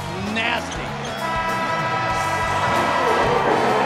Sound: buzzer

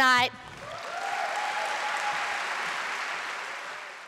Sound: applause

